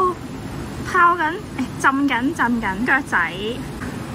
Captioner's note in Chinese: 廣東話